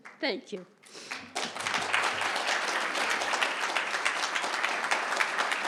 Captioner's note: applause